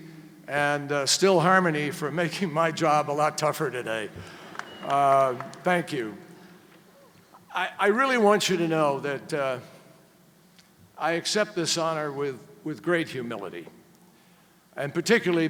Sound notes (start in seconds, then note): 4.1 applause